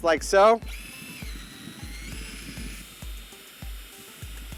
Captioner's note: drill whirs